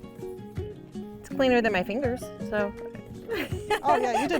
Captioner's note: laughs